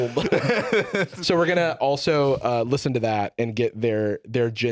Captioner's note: laughs